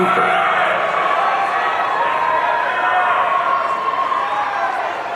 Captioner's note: audience cheering